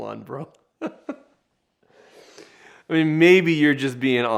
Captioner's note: laughing